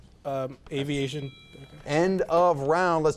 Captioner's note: timer beeps